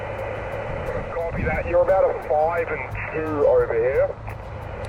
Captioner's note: radio